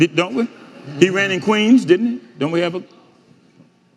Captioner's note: audience laughing